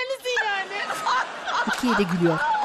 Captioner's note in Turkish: Gülme sesi